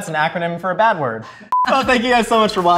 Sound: beeping

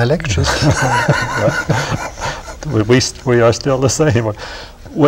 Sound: laughter

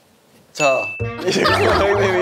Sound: ding

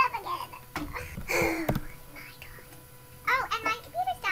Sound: sigh

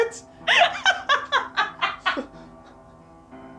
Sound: heavy laughter

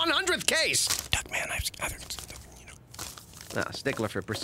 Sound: whispering

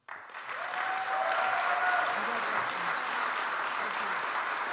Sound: audience applauds

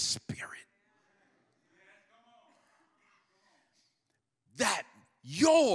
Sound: congregation muttering in agreement

